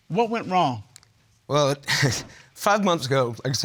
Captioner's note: chuckles